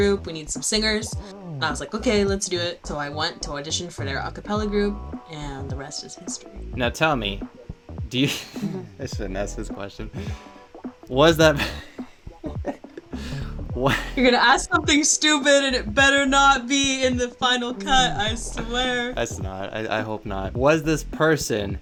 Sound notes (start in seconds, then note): 8.3 break out laughing; 12.4 breaks out in laughter